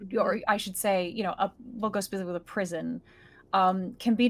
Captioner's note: none